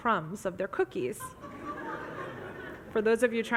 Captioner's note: audience laughs